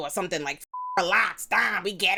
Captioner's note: beep